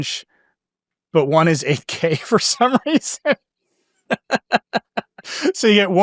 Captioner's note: laughs